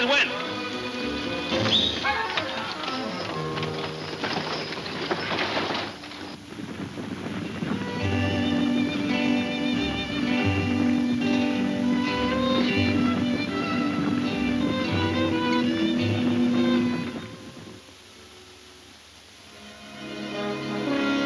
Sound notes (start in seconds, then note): 1.5 one whistles; 2.6 hooves thundering; 2.6 wagon rattling; 6.4 slow latino music; 18.3 dramatic music